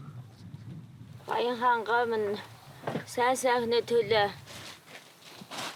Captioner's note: foreign spoken audio